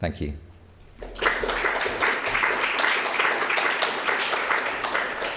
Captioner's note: audience applauds